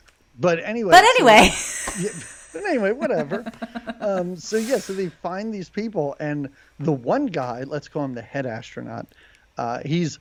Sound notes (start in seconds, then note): 1.0 laughs